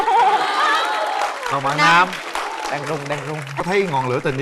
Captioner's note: applause